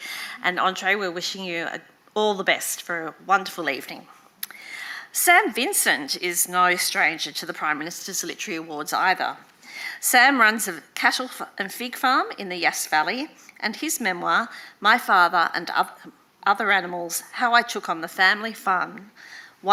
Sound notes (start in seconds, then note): none